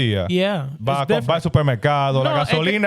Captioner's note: speaking In Foreign Language